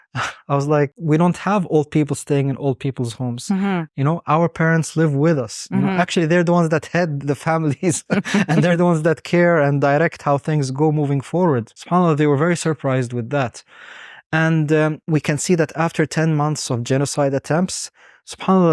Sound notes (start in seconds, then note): 7.7 both chuckling; 12.0 speaking Arabic; 18.4 speaking Arabic